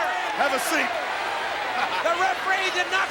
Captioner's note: laughs